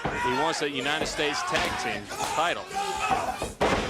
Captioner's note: crowd chatter